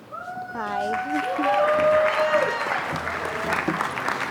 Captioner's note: applause